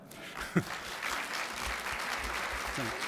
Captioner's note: applause